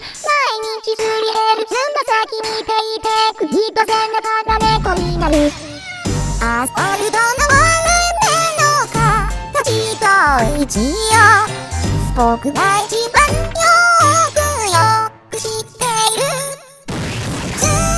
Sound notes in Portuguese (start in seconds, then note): 5.6 Miau!